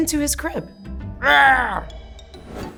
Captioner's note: raaaahh!